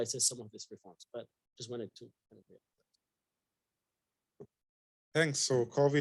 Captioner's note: speaking faintly